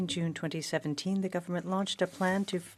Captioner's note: speaking French